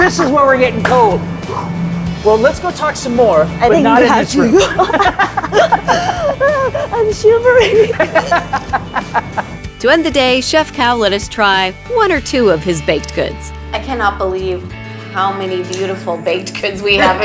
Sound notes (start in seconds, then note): 4.3 both laughing; 8.0 laughing